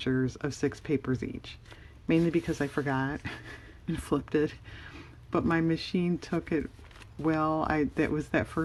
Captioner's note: laughs